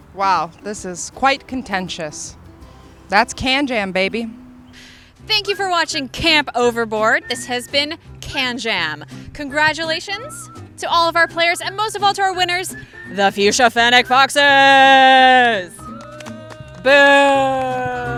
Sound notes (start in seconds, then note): 16.4 all booing